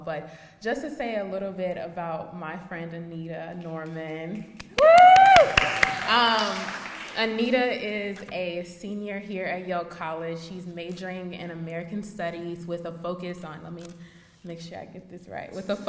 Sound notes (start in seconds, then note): 4.6 audience applauding; 4.7 cheering